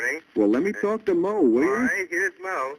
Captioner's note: on phone